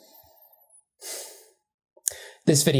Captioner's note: exhales pointedly